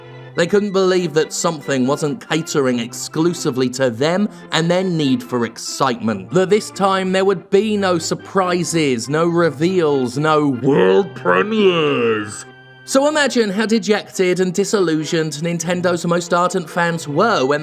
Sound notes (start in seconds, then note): 10.3 louder voice